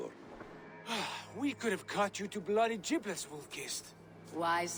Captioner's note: sigh